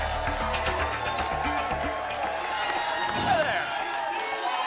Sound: applause and cheering cont

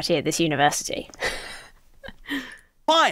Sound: chuckles

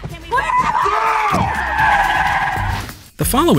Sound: screams

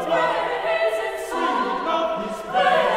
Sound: lower Voices

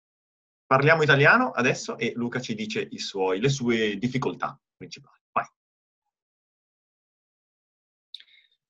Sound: in Italian

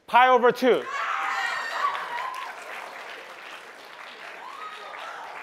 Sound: cheering

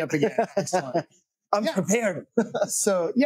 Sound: laughing

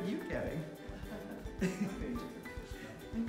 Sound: laughing

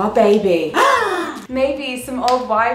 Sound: both gasping

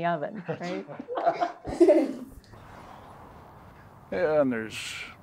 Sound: all laugh

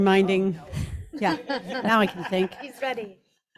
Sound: group laughs

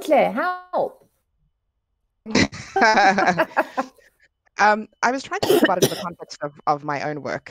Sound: laughing

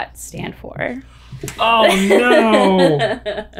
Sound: laughs

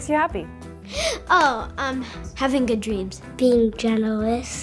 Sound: gasps

